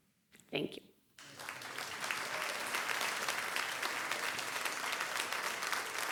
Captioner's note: audience applauding; adience cheering; audience applauding